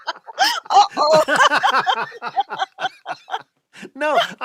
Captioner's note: laughs